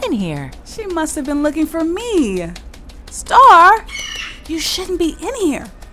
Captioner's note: bird screech